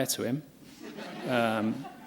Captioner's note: laughter